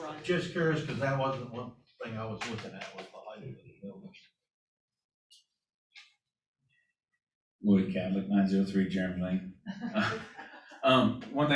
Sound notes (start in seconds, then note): 9.6 laughter